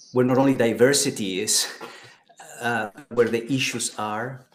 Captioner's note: laughs